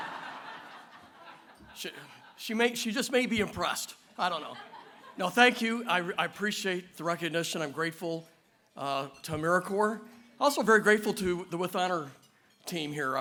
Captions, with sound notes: [LAUGHTER] She may, just may be impressed. I don’t know. [LAUGHTER] No, thank you. I appreciate the recognition. I’m grateful to AmeriCorps. Also very grateful to the With Honor team here.